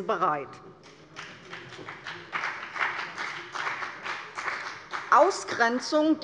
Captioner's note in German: Beifall bei der CDU und dem BÜNDNIS 90/DIE GRÜNEN